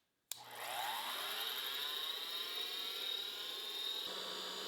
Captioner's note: tool humming